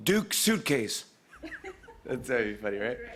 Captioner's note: laughter